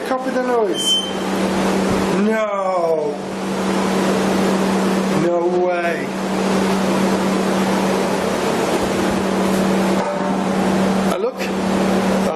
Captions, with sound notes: Copy the noise. (device beeping) No. No way. (clanging) Oh, look.